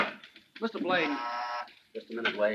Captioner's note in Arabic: رنين هاتف داخلي